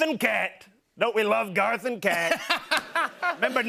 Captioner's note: laughter